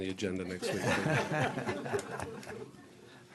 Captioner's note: laughter